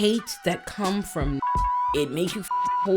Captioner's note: beep